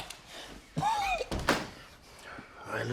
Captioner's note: coughs